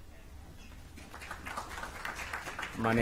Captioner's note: applause